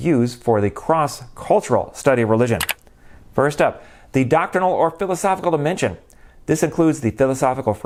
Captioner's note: mouse click